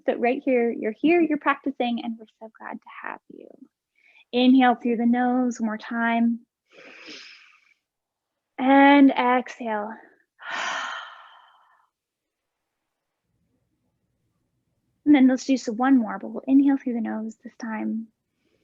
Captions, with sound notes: but right here, you're here, you're practicing, and we're so glad to have you. Inhale through the nose one more time (inhaling) and exhale (exhaling). And then let's do some one more but we'll inhale through the nose this time,